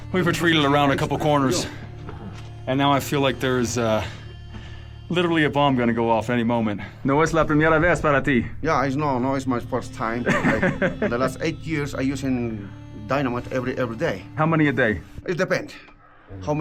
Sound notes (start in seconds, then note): 7.2 speaker speaking foreign language; 10.0 laughs